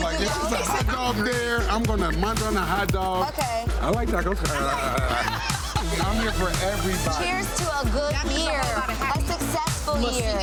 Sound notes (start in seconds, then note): 0.0 energetic thumping music; 3.8 people laughing; 9.7 energetic thumping music